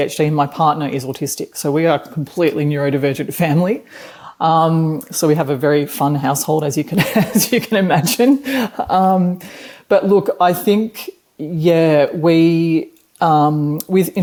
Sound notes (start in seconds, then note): 7.0 chuckles